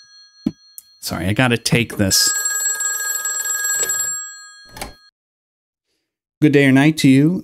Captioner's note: phone ringing